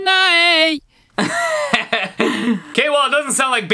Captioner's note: laughing